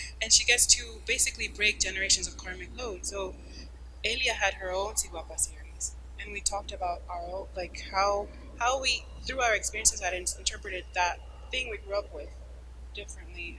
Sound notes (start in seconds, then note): 4.1 speaking a foreign language